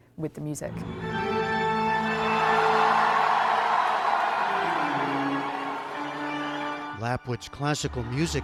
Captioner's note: cheering